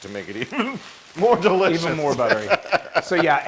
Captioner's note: laugh